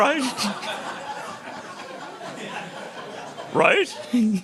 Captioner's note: laughter